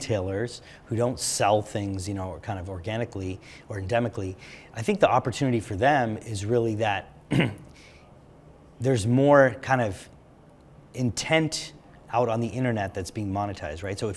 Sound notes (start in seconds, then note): 7.2 cough